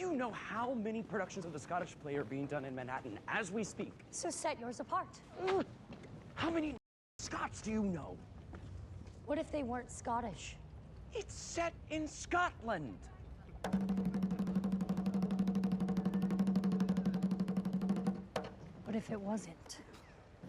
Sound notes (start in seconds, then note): 6.4 whispering; 13.6 drumbeats